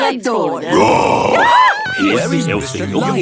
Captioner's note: roar, scream